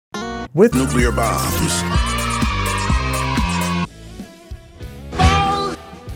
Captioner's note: kids cheering